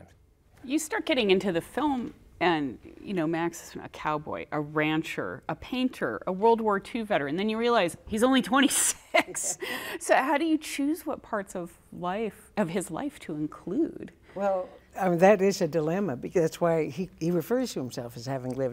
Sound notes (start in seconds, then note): 8.9 laughs